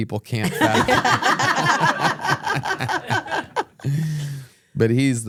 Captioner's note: everyone laughs